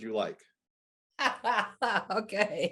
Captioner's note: laughing